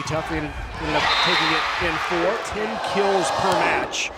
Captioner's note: crowd cheering